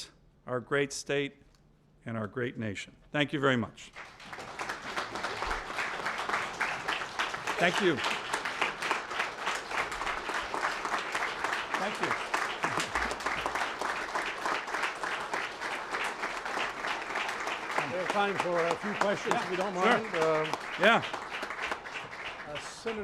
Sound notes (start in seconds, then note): 9.3 applause